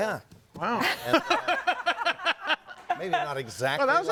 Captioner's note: audience laughing